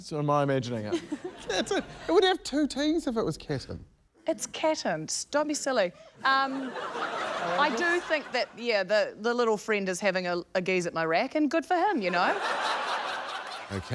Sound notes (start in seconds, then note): 6.4 laughter